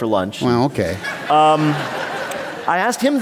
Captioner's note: laughter